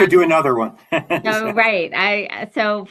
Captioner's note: laughs